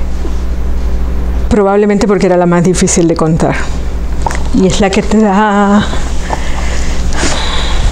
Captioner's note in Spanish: suspira